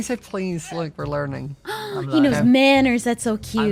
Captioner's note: gasp